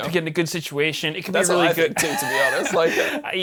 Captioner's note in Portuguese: risos